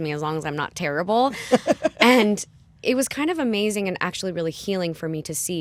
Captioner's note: laughter